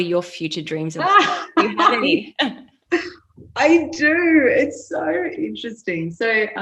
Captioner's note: laughing